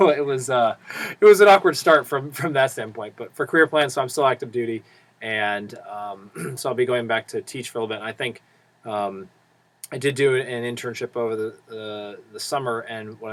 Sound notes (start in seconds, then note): 6.3 cough